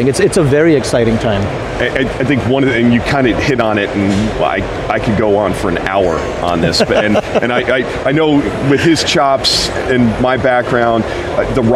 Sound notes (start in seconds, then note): 6.5 laughs